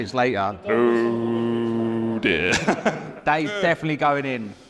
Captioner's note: laughs